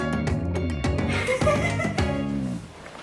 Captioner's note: laughter